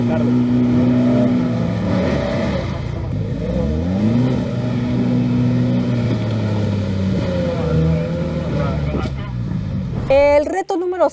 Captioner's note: engine revving